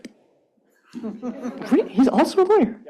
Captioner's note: chuckling